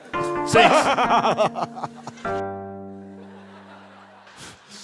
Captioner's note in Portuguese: risada maligna